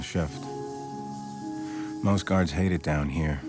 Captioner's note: can spraying